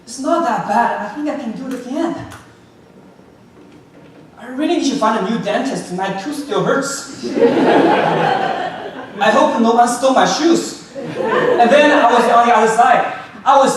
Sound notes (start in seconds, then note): 7.1 audience laughing